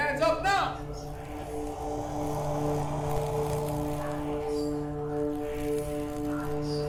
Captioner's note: gentle, ominous music; disembodied whispers